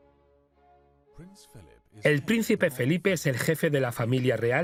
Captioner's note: voiceover